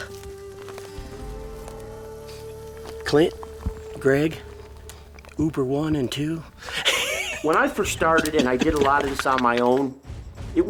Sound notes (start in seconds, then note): 6.3 laughs